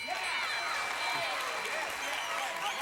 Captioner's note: audience applauding